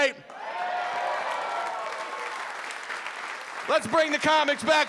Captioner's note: audience applauding